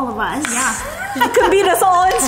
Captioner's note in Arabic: تضحك